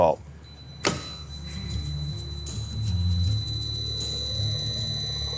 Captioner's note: hoist motor clicks and whirs